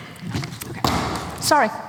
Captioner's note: water drops